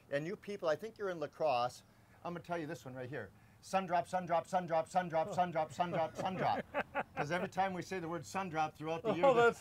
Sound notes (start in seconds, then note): 5.1 laughs